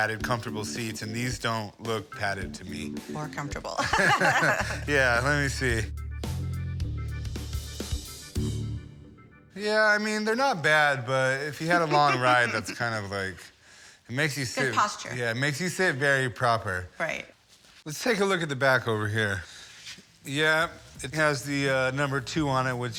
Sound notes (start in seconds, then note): 3.8 both laughing; 6.0 quirky music